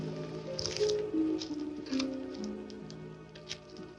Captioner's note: paper rustling